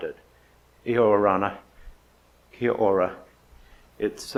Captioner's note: speaks in foreign language